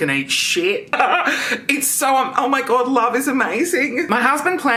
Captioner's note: laughs